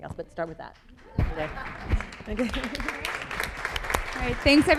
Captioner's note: audience applauding